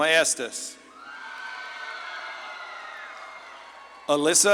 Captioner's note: audience claps and cheers